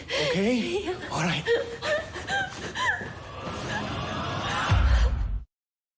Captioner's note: crying